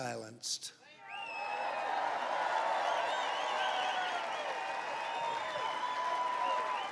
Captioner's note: applause